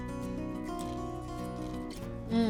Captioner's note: crunching